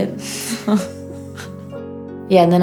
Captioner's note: laughter